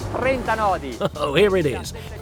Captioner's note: chuckle